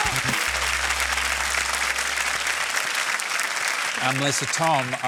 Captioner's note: applause